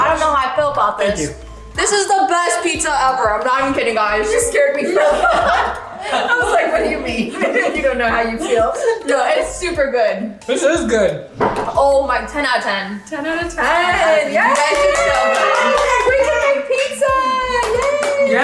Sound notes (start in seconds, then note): 4.7 laughing; 14.4 cheering